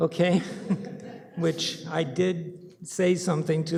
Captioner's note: laughter